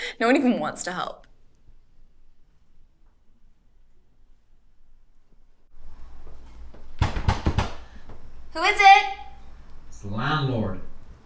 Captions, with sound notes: No one even wants to help. (door knocking) Who is it? - It's the landlord.